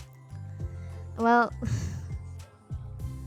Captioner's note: laughs